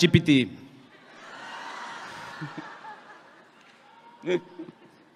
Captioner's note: audience laughing